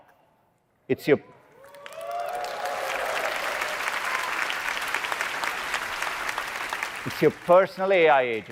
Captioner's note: applause